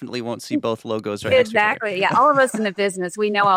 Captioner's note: laughs